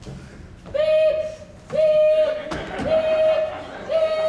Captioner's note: audience laughs